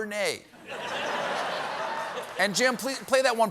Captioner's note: laughter